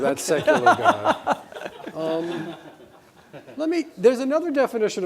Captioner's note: audience laughing